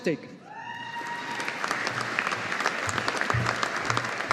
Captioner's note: audience applauding